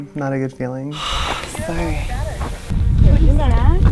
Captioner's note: sigh